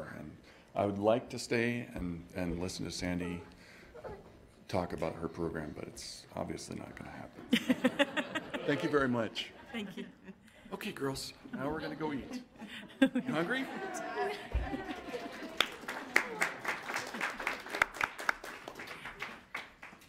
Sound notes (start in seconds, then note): 14.5 applauding